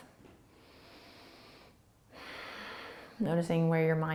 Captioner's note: breathing